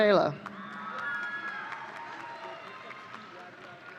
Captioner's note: audience cheering